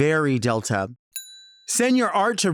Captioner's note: bell dings